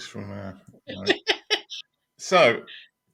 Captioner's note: laughing